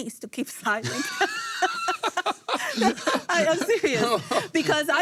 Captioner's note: laugh